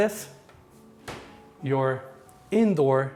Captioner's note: latch clicking